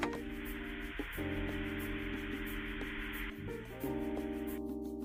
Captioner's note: static TV signal